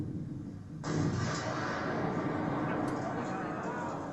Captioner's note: explosion